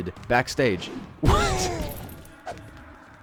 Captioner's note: laughs at dismay